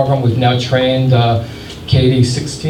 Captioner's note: none